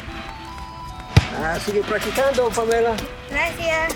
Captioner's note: James speaking in Spanish